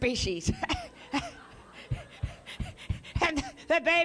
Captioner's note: laughter